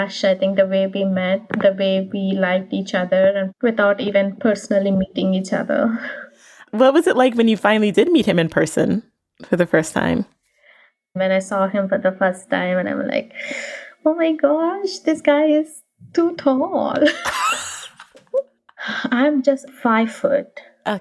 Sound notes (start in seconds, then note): 14.0 sighs; 17.0 both laugh